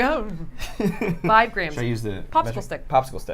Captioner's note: laughs